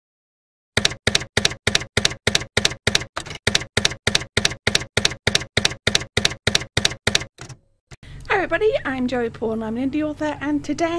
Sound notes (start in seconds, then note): 0.8 typewriter keys clacking